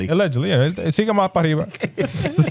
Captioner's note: speaking In Foreign Language